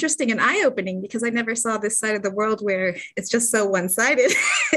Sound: laughter

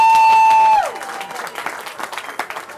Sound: cheering

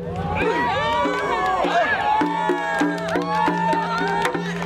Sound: loud cheering

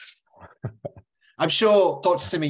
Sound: laughs

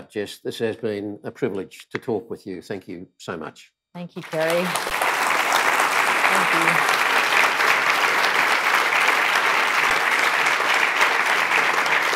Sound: applause

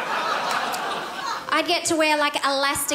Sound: crowd laughs

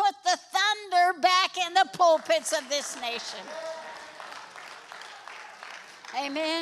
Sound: congregation applauds

